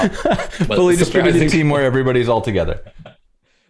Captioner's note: laughter